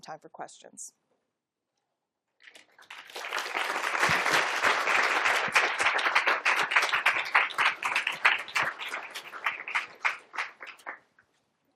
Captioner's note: applause